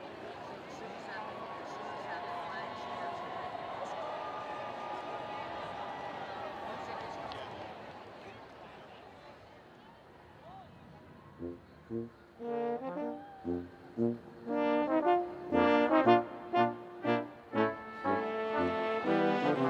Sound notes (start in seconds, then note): 2.9 students cheering; 6.4 students chattering; 12.4 upbeat collegiate music